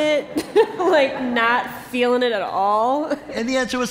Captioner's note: laughter